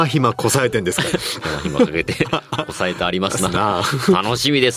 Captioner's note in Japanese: 笑い